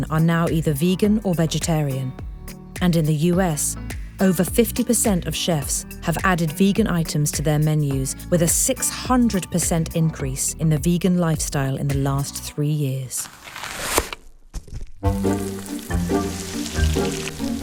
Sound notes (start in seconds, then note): 13.2 onion slicing; 15.0 playful music